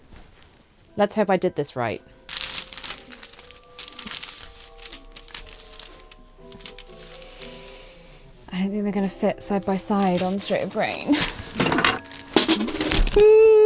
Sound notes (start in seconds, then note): 2.2 paper rustling